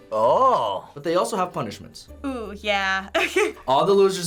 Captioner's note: chuckles